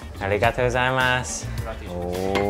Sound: speaks in foreign language

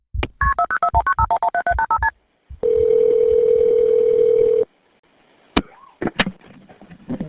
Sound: phone beeping; phone ringing

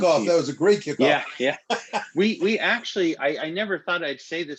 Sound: laughter

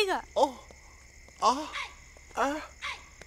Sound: groans

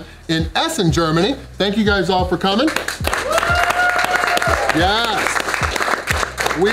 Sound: crowd cheering

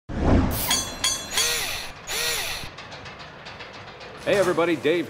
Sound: mechanical SFX

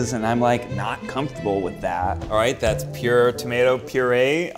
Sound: none

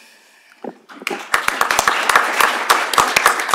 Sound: applause

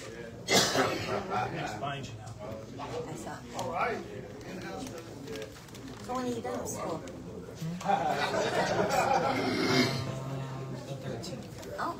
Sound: indistinct chatter

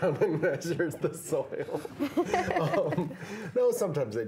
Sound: laughing

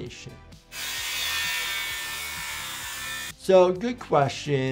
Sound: saw whirring

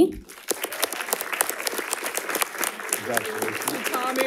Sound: audience applauding

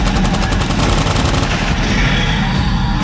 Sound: machine guns firing

